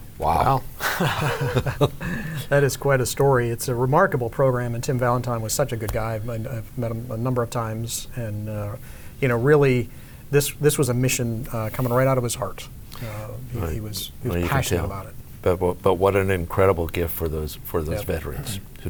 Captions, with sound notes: - Wow. - Wow. (laughing) - That is quite a story; it's a remarkable program and Tim Valentine was such a good guy. I've met him a number of times, and really this was a mission coming right out of his heart. He was passionate about it. - But what an incredible gift for those veterans,